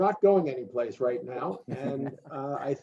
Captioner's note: many laughing